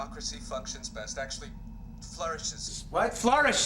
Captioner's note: voiceover